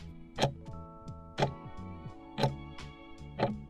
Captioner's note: timer ticking